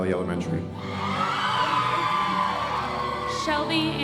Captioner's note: audience cheering and applauding